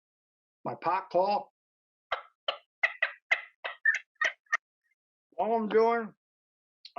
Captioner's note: turkey call sounds